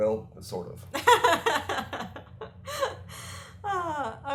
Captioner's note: laughter